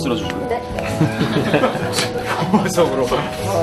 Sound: laughing

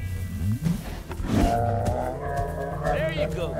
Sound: bear moaning

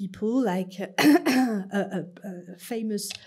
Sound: clearing throat

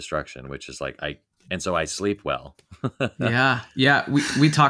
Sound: laughing

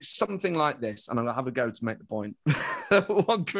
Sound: laughs

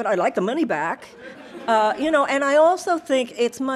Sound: audience laughing

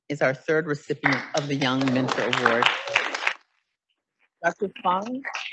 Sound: audience applauding

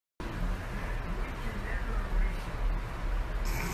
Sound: T.V. in background; Michael Arden trying not to laugh, but failing

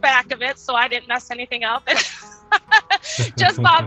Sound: laughs; chuckling

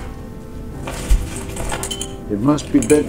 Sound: fabric rustling; belt buckle rattles

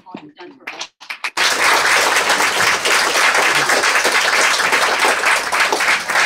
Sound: applause

